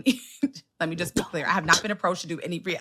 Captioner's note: whisper